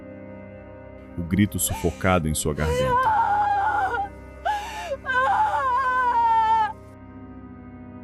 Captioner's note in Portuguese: grito